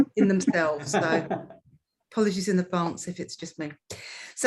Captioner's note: laughs